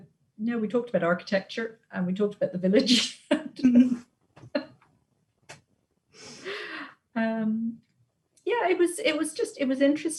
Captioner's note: laughs